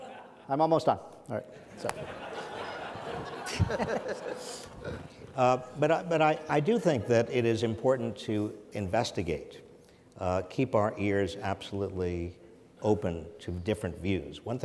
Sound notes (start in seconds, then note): 1.6 audience laughs